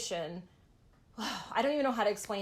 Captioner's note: sigh